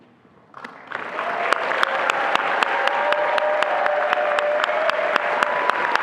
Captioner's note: attendees applauding and cheering